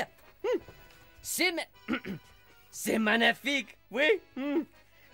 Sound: throat clearing

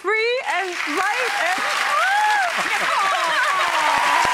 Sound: audience cheers

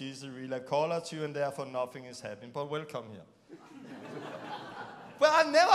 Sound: laughing

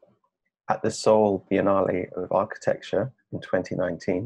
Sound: none

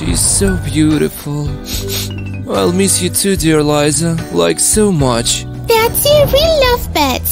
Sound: sniffles

